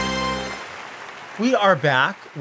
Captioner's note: audience applauding